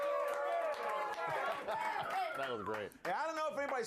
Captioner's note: audience cheering